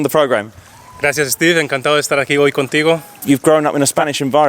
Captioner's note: speaking in foreign language